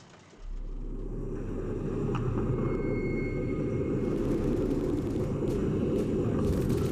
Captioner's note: low rumbling; gunfire and explosions